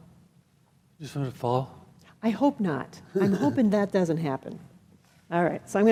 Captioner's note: laughing